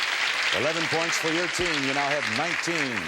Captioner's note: audience applause